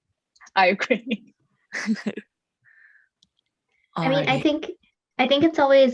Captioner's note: chuckles